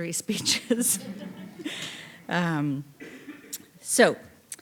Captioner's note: audience laughing